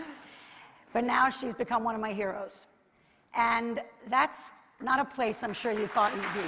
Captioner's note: laughter